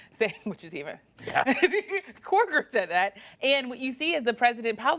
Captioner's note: laughter